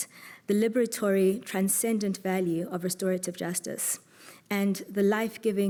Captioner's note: none